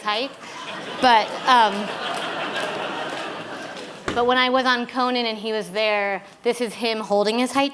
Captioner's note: laughter